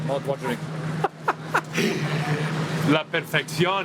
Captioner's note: chuckles